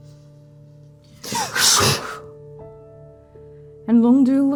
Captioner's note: gasping, breathing; whooshing, blade singing